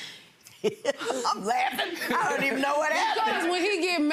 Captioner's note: laughs